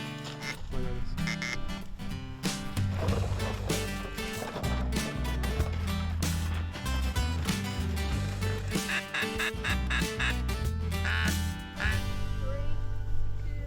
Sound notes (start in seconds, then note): 1.2 duck calls; 2.7 lively music; 8.6 duck calls